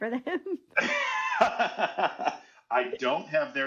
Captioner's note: laughing